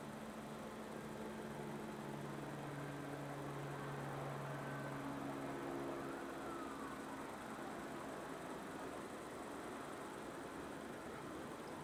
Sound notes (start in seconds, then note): 3.1 distant helicopter whirring; 7.5 distant police sirens alarming